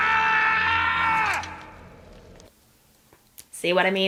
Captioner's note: yells in broken toe